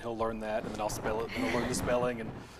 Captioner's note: laughs